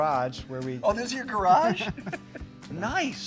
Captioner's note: laughs